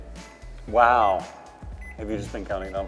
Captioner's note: microwave beeping